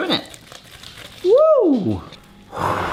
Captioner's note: pasta slushing